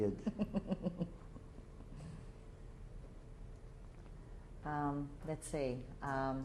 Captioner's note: chuckles